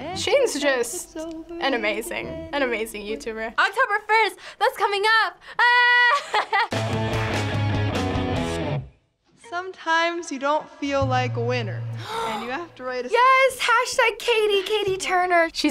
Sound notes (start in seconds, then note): 5.6 laughs; 6.7 punk rock intro; 12.0 gasps